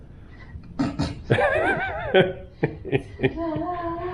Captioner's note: chuckling